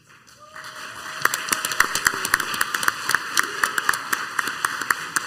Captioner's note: crowd applauds